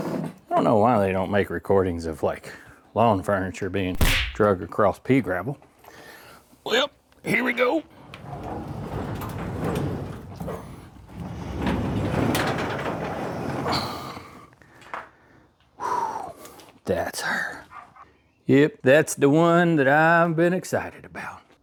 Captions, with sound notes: I don't know why they don't make recordings of like lawn furniture being (Gunshot) here we go. Oh, that's her. Yep, one that I've been excited about.